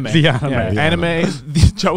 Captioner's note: laughs